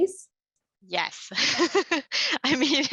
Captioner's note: laughs; chuckles